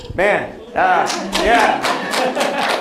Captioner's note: applause; applause begins